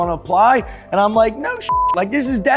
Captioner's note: beep